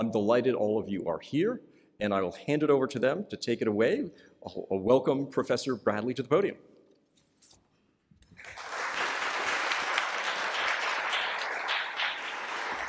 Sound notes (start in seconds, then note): 8.3 applause